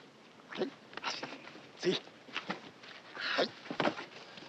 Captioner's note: speaking Japanese